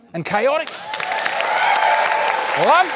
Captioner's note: cheering, applause